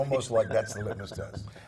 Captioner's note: laugh